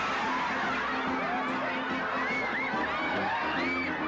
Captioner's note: crowd roaring